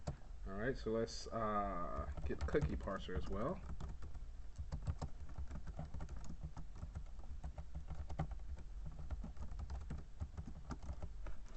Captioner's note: typing sounds